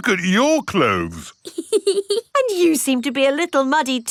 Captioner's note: laughs